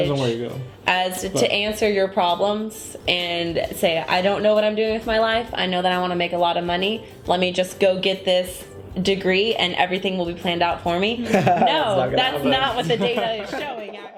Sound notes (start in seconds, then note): 11.2 laughing